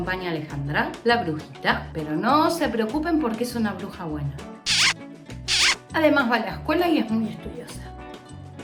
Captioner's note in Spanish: besos